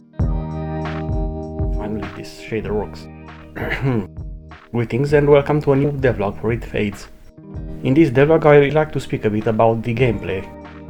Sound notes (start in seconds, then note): 3.4 cough